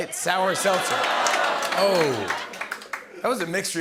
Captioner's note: audience ohs